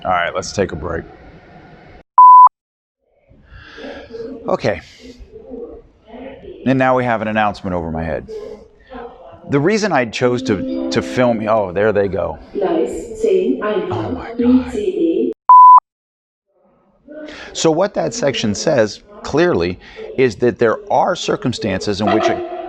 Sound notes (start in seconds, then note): 11.8 audible Chime; 12.9 announcement In German; 21.5 loud Announcement Across Platform